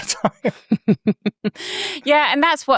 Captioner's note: chuckles